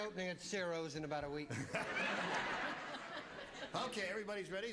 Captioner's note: laughs